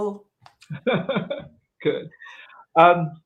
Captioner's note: laughs